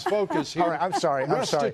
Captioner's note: laughter